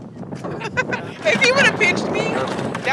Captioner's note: laughing